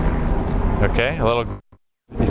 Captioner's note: audio pops